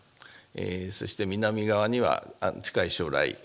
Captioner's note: speaking japanese